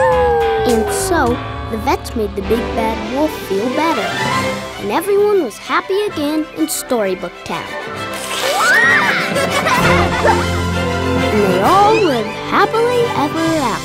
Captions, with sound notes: And so, the vets made the Big Bad Wolf feel better. And everyone was happy again in Storybook Town. [squealing] [laughing] And they all lived happily ever after.